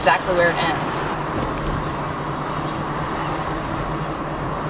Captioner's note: car rumbling